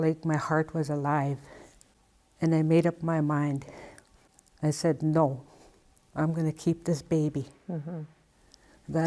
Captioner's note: hmm